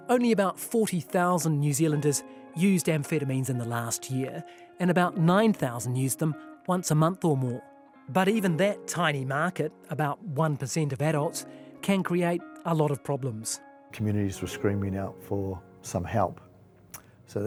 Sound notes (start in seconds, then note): none